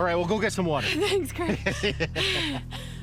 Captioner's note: breathing heavy